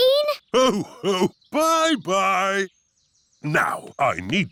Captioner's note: laughs